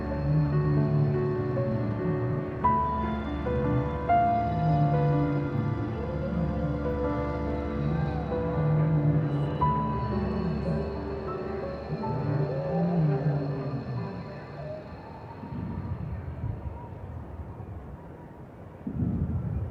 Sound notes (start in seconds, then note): 16.0 fire blasting